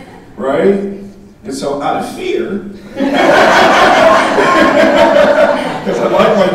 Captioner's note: audience laughing